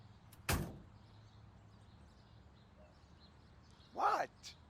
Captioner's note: rv door slams; birds chirping